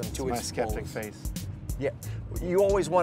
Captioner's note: none